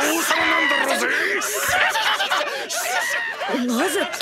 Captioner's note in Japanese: 一同の笑い声